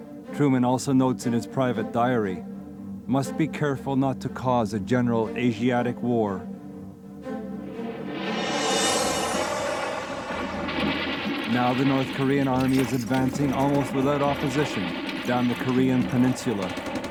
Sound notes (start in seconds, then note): 7.6 airplanes buzzing; 7.7 explosion blasting